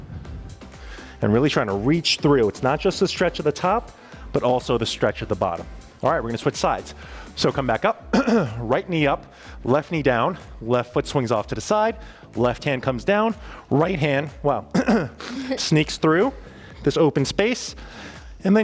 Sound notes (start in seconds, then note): 14.7 clears throat